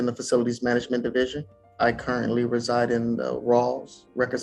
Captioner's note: crowd cheering